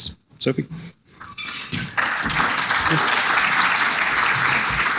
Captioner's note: audience clapping